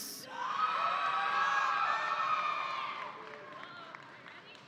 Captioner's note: audience applauding